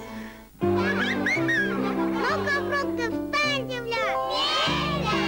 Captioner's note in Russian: смех